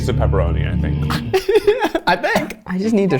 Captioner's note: laughs